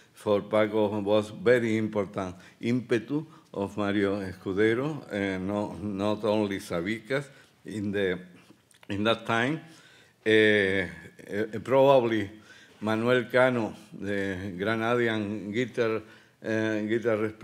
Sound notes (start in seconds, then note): 2.3 speaking Spanish